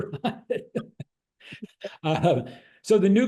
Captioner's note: laughs